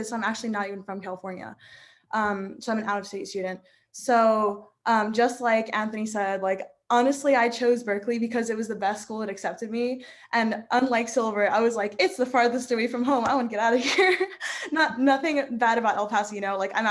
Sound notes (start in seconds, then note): 14.6 laughing